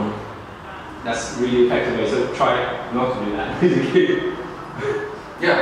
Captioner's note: chuckles